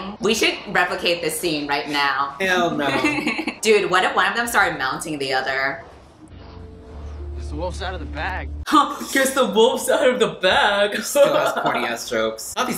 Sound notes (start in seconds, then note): 2.6 laughs